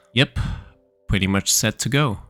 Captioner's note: none